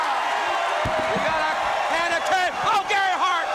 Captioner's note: crowd cheering